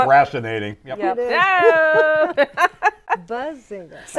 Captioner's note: laughs